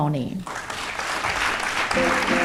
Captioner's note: audience applauds; upbeat music